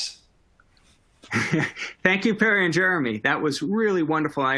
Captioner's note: laughter